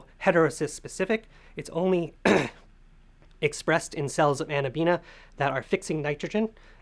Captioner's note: cough